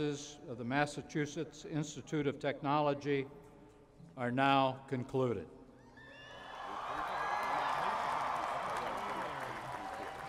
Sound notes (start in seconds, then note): 6.0 cheering